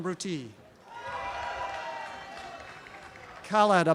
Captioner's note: applause and cheering